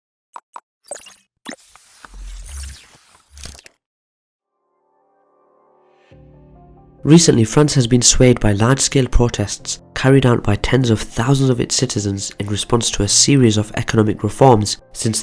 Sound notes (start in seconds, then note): 0.9 bubbles popping